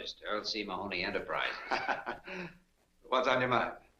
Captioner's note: Earl chuckles